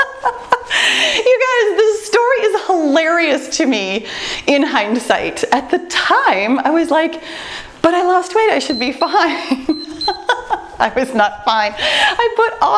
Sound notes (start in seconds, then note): 8.6 timer beeps; 9.2 laughs